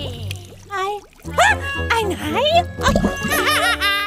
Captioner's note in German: erschrocken